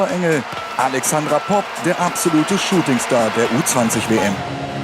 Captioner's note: applause